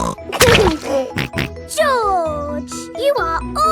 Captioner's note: laughs and snorts